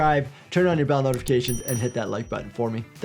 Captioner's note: mouse clicks; bell dings